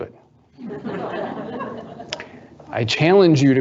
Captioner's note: audience laughing